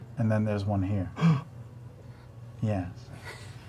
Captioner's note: gasps